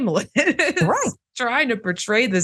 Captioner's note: laugh